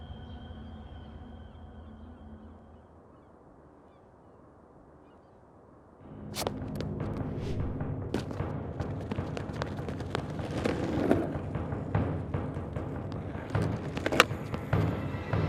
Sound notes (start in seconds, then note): 0.1 gulls shrieking; 6.3 intense music; 8.8 skateboard rolling